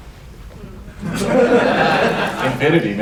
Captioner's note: laughter